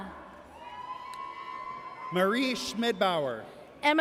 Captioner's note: audience cheers